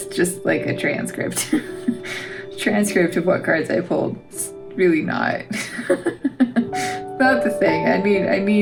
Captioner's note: laugh; laugh